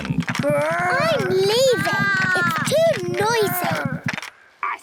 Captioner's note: both roar